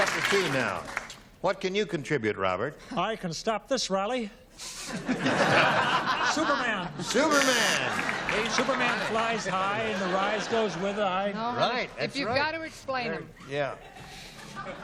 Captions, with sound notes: You got the two now. What can you contribute, Robert? - I can stop this rally. [laughter] Superman! - Superman! - Superman flies high, and the rise goes with the high. - No, honey. If you've got to explain him. - Yeah.